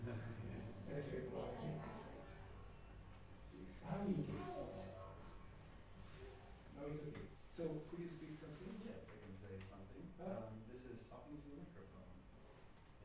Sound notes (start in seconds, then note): 0.0 laughing; 3.9 electronic voice reverb